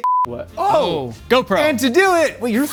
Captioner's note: tone beeps